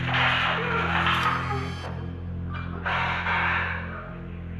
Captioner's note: crying